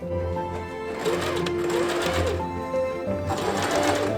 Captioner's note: sewing machine